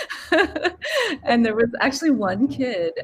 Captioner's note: laughing